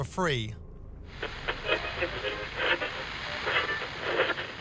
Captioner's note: static plays on radio